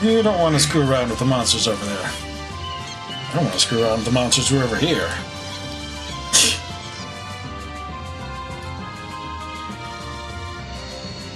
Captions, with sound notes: You don't want to screw around with the monsters over there!" I don't wanna screw around with the monsters who are over here. [laughs softly]